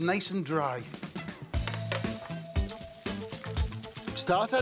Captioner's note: upbeat music; pan clacks